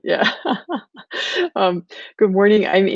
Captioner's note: laughing